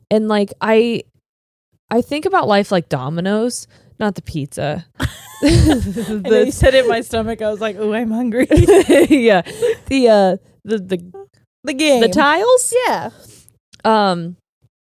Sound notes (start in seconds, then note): 5.0 laughing; 8.4 giggling